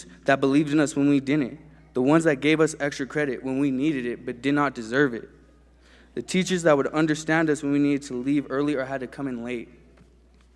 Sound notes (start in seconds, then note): none